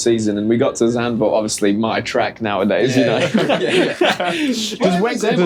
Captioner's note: laughter